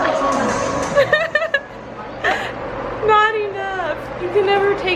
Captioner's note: laughs